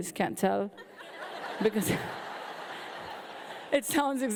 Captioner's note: audience laughing